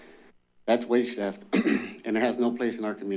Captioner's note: clears throat